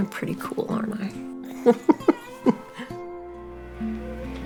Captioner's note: laughter